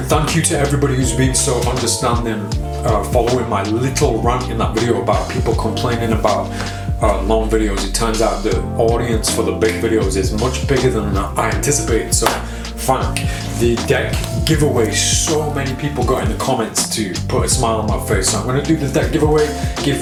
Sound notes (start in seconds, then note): 12.2 claps